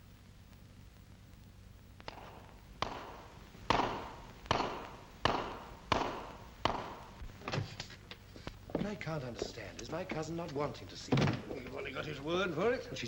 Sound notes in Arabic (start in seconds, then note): 2.7 صوت حوافر